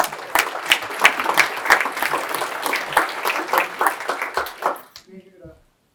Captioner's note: applause